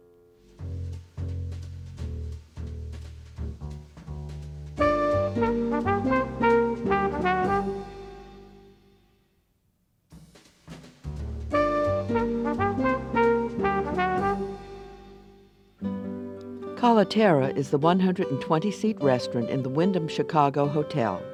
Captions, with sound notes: (jazz music) (jazz music) - [Voiceover] Caliterra is the 120-seat restaurant in the Wyndham Chicago Hotel.